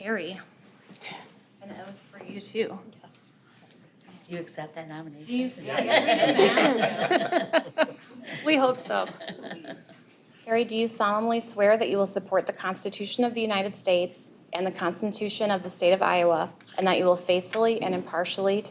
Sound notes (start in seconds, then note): 5.6 group laughing